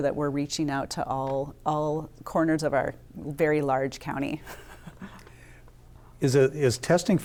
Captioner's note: laughs